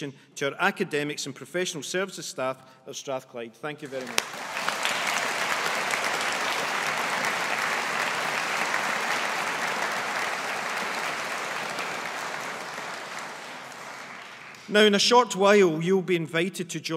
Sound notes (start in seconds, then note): 4.6 graduates applauding